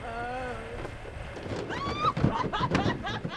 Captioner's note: boxes fall over, screams!; laughing